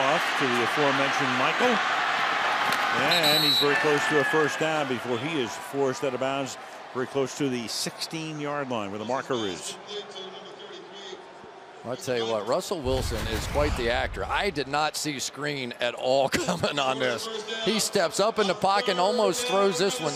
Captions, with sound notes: Wilson will dump it off to the aforementioned Michael. And he's very close to a first down before he is forced out of bounds, very close to the 16-yard line where the marker is. [pa announcement] I'll tell you what, Russell Wilson is quite the actor. I did not see screen at all coming on this. He steps up in the pocket and almost